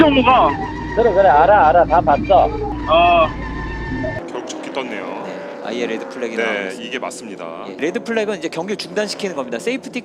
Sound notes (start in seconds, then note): 2.8 phew ... !